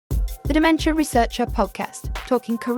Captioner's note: voiceover